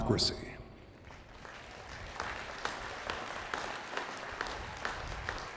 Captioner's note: attendees clapping